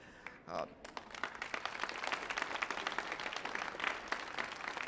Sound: audience applauding

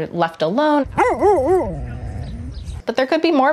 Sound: dog barking

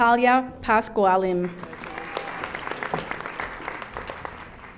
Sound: audience applauding

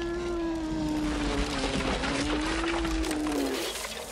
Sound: howling

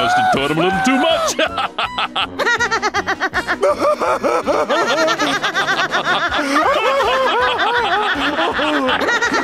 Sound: laughing

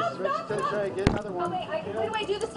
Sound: laughter

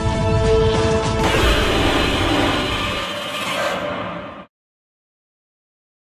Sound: Godzilla roars

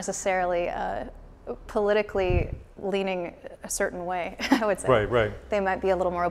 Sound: laughs

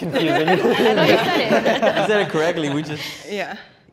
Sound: laughing

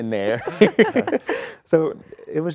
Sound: laughter

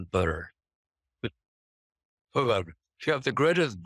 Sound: chuckles

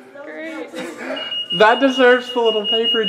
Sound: alarm beeps again

